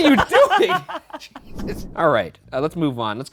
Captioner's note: laughing